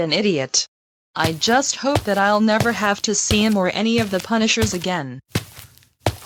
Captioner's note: footsteps